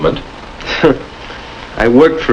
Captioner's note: scoffs